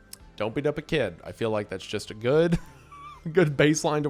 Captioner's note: laughs